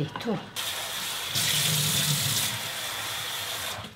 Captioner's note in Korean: 수돗물 튀는소리